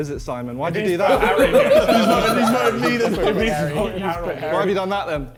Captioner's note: men laughing